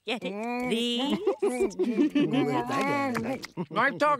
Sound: laughing

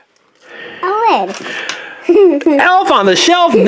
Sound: laughs

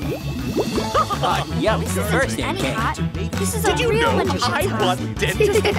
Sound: party members chatting

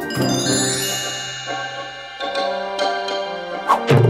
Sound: bell dinging

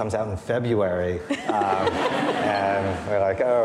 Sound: audience laughing

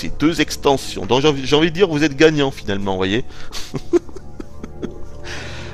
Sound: laughter

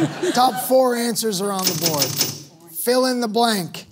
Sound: panels clicking

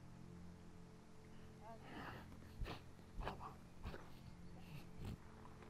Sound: grunting

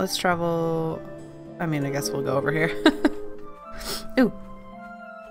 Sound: laughs

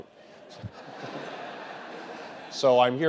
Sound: laughter

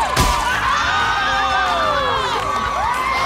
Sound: screaming

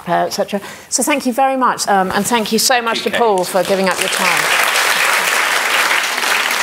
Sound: applause

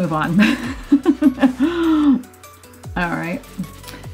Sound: laughs

